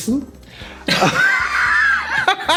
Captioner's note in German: lachen